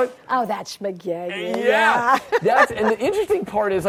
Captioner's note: laughing